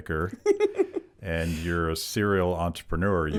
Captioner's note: laughing